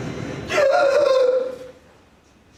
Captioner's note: terrified gasp